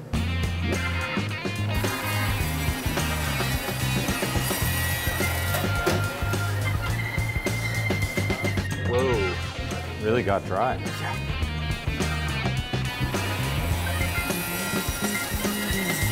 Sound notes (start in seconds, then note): 0.0 upbeat music; 1.7 saw running; 12.5 saw running